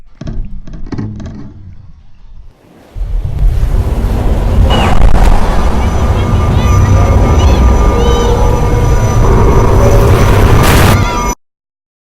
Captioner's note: loud indistinct water noises